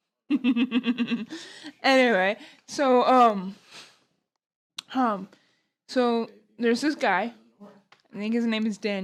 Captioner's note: laughing